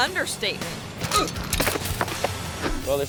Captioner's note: biker clatters; biker groans